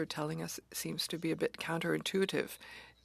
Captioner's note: speaking French